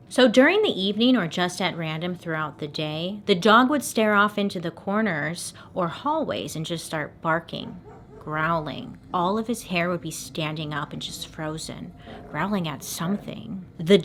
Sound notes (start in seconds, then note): 7.5 faint barks; 11.8 faint growls